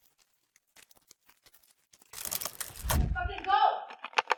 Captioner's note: chittering continues; door slams